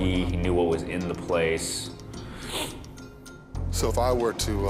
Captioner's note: sniffles